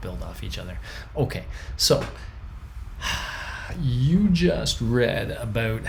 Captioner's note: sighs